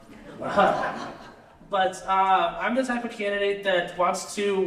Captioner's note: laughter